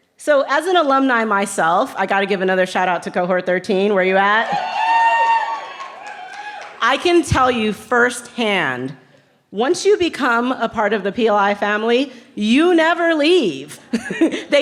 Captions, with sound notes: So as an alumni myself, I gotta give another shout out to cohort 13, where you at? (cheering) I can tell you first hand, once you become a part of the PLI family, you never leave.